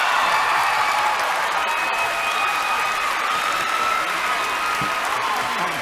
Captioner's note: applause